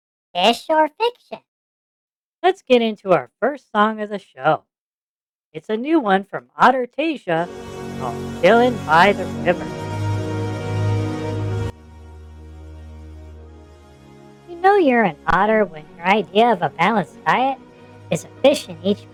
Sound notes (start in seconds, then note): 10.0 random banter while music plays in background